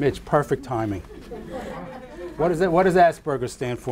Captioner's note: audience laughing